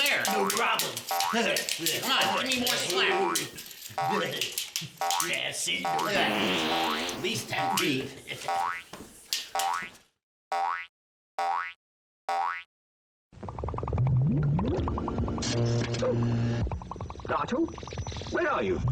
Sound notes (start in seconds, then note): 5.8 farting sound from cheese can